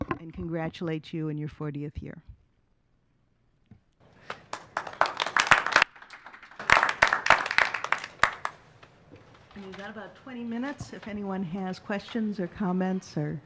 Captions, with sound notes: and congratulate you in your 40th year. [Applause] And you got about 20 minutes if anyone has questions or comments or.